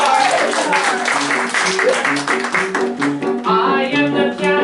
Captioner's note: applause